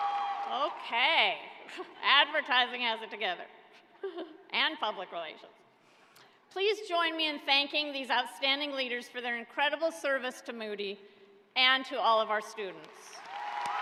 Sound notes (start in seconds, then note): 1.8 cheers and applause